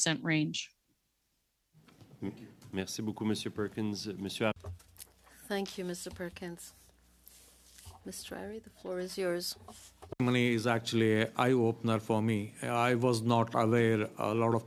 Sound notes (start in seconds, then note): 7.9 speaking French